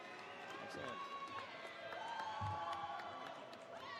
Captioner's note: applause